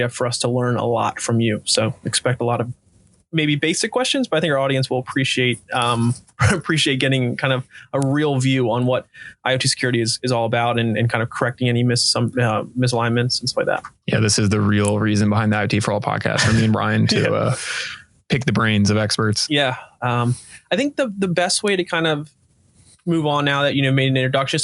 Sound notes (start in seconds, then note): 6.3 laughing